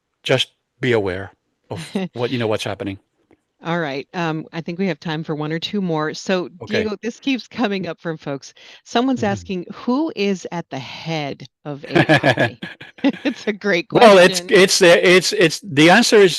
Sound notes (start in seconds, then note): 11.8 laughs